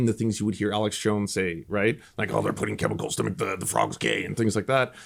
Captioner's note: imitating Alex Jones voice